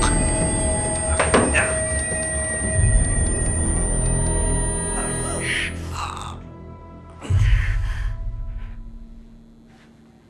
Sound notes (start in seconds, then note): 0.3 gagging; 4.9 gasping